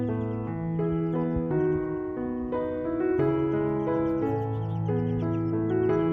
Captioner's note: birds are chirping